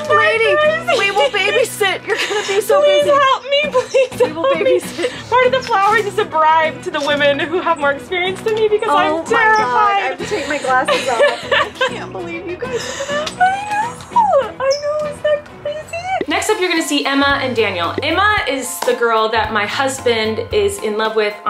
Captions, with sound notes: - Lady, we will babysit. You're gonna be so busy. - Please help me, please. - We will babysit. - Part of the flowers is a bribe to the women who have more experience than me because I'm terrified. - Oh, my God. I have to take my glasses off. (laughs) I can't believe you guys did this. - I know. I know, isn't that crazy? - Next up, you're gonna see Emma and Daniel. Emma is the girl that my husband is in love with